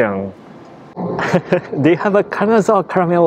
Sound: chuckles

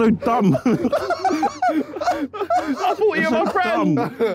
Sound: laughing

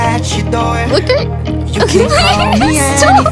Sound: giggling

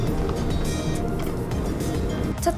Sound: pat, pat

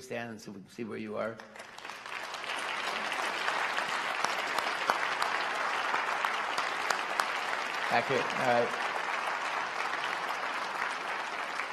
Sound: applause

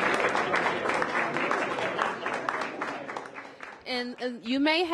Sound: applause

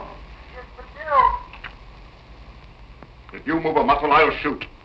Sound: on phone

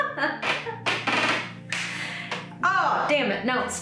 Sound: laughs; chair creaks

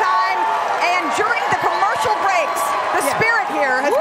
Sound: cheers and applause

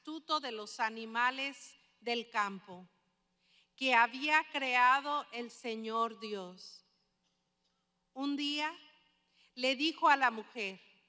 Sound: speaking spanish

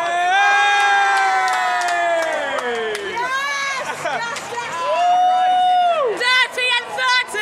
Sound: lots of woooos

